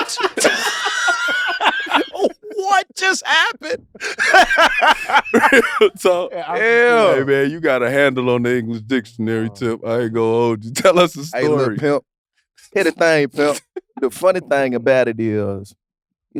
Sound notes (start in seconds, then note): 0.0 laugh; 4.7 laughs